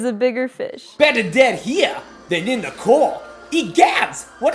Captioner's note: imitating Jar Jar Binks